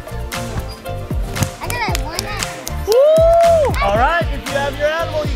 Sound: soft claps

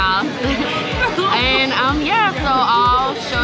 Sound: laugh

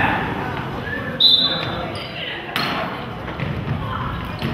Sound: whistle blows

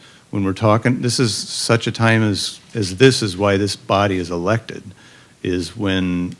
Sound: none

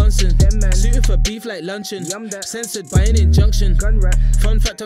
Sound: gun raps

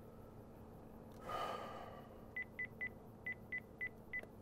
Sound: exhales

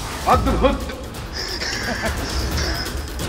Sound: laughs in happiness

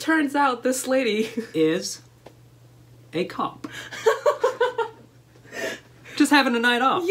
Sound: laughter

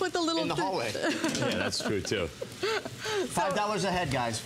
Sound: laughter

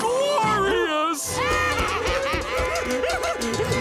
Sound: laughing

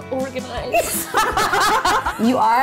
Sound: laughs

